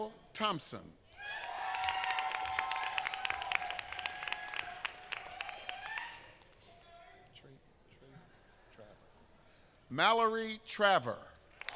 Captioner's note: applause